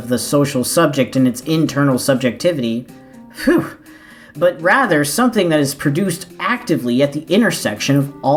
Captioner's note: phew